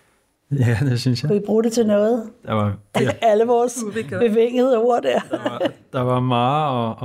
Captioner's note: chuckles